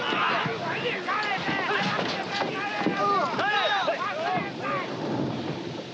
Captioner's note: shouting in Japanese